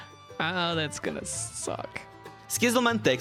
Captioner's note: sighs